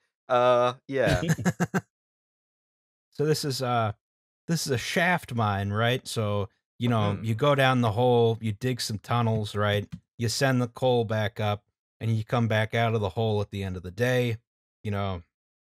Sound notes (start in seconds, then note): 1.0 laughter